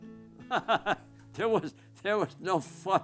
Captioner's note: chuckling